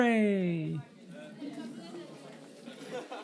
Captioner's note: student chatter